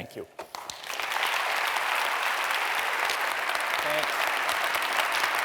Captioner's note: applause